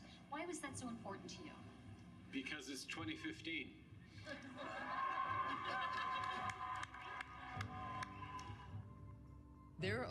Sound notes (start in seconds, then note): 4.4 applause and Cheers